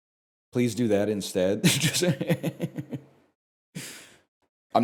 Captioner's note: laughs